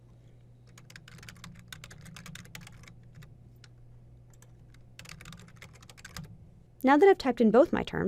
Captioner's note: typing